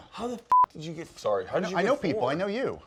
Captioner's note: beep